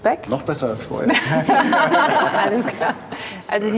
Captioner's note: laugh